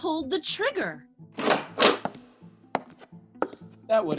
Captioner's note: door opens